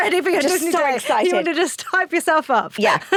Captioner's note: laughs